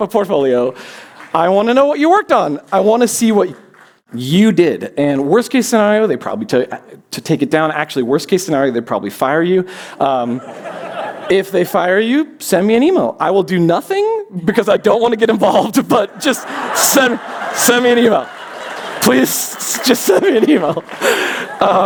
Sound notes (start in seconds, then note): 10.3 laughter; 16.1 laughter